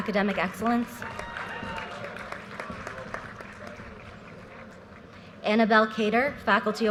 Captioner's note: audience cheers and applause